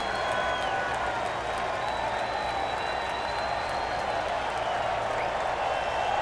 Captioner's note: crowd cheering continues